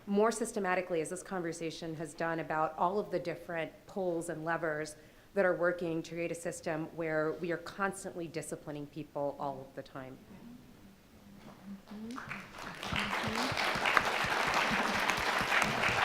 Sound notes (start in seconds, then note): 12.1 crowd applauds